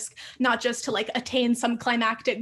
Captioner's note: none